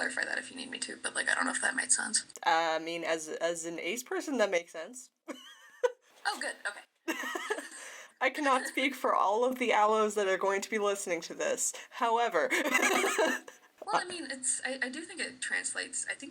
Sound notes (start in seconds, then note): 7.0 laughs; 12.4 laughter